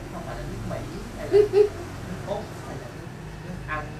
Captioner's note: laugh